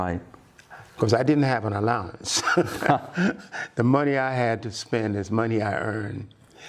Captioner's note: laughter